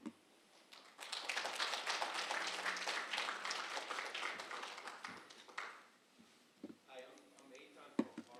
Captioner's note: applause